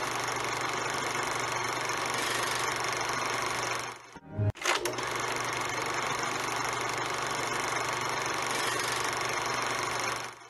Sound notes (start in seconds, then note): 4.5 film projector continues rolling